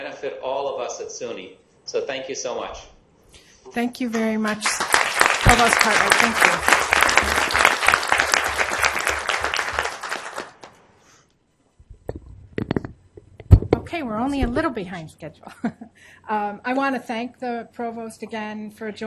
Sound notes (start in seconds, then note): 7.0 applause